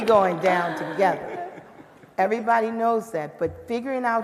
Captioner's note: laughter